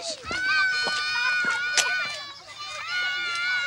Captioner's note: screaming continues